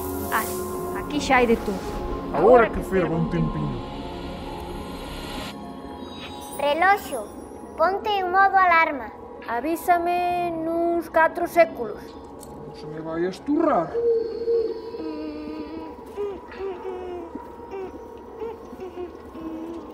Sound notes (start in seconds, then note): 2.3 distorted low voice; 6.5 distorted high-pitched voice; 12.9 distorted low voice; 16.1 humming